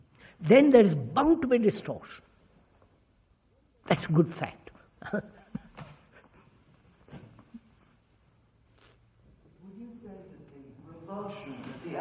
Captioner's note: laughs